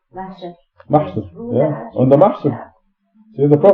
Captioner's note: speaking Farsi